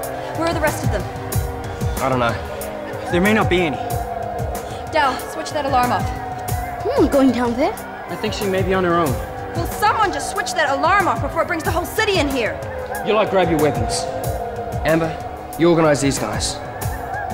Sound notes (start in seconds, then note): 0.9 wolf howls continue; 3.8 wolf howls continue; 5.7 wolf howls continue; 7.3 wolf howls continue; 12.0 wolf howls continue; 13.9 wolf howls continue; 16.2 wolf howls continue